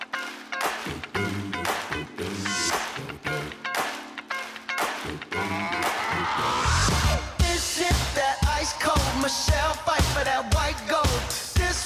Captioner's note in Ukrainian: оплески